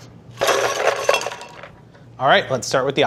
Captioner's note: ice rattling